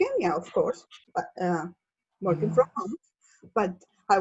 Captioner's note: laughs